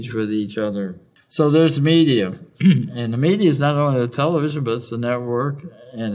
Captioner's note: cough